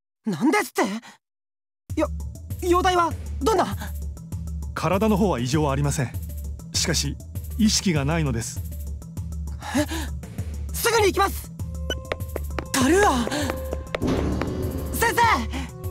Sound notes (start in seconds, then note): 9.6 gasp